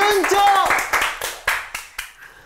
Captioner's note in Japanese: 拍手